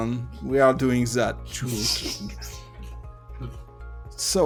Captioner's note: chuckles